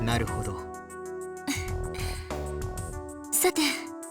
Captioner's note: chuckle